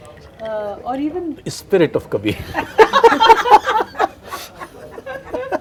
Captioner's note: laughter